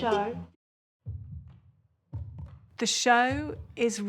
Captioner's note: heartbeat thuds